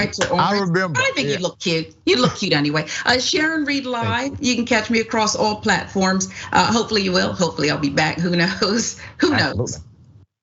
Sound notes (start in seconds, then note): 9.3 laugh